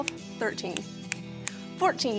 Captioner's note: snapping